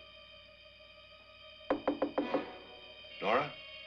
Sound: knocking on door

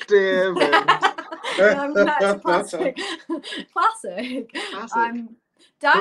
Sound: laughter

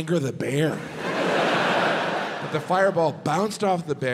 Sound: audience laughs

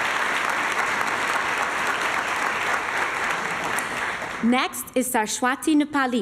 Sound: applause

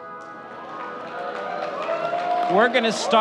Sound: audience cheering and clapping

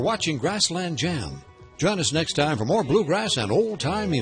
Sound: voiceover

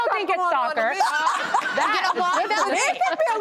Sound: laughs

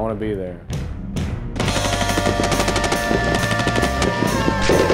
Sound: bullets firing

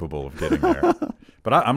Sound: laughs

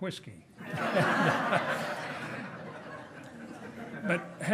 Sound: hearty laughing

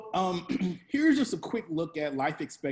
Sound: clear throat

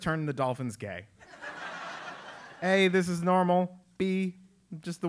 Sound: laugh

